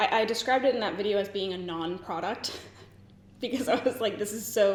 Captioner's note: giggles